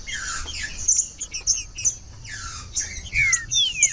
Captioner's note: trinca ferro cantando